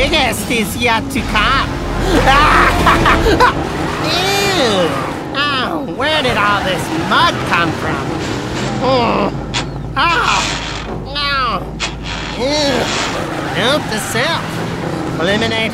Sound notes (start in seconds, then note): 2.6 cackling; 9.4 gears grinding; 9.4 groaning